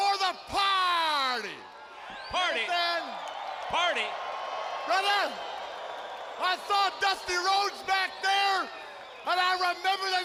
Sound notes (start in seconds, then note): 5.1 crowd cheering